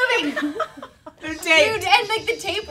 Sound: laughing

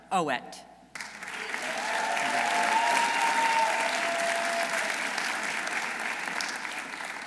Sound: audience applauding; audience cheering

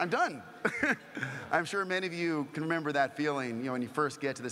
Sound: laugh

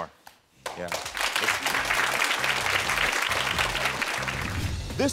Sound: audience applauding

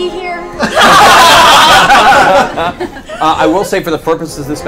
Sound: all laugh

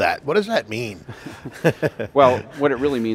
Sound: laughs

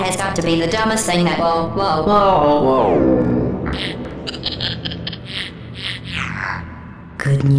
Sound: maniacal laughter

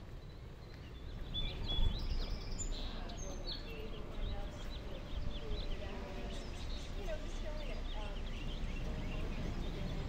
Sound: footstep on gravel Distant birdsong; several birds singing Distant conversation

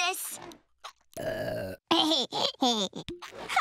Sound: burping, laughing

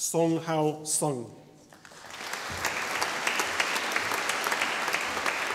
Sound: audience applauding

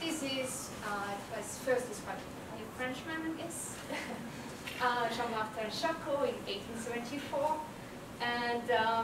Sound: laugh

